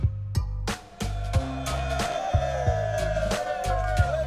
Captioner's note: people cheer